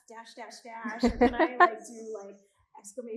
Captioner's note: all laughing